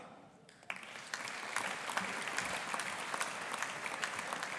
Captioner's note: audience applauding